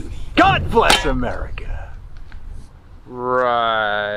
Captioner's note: shovel thuds